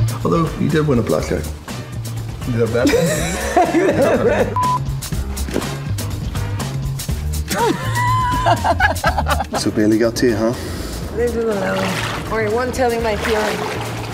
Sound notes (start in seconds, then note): 0.0 funk music continues; 2.8 Gal laughs; 4.8 funk music continues; 7.4 laughing; 10.5 water splashes